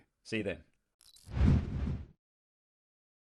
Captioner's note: logo swoosh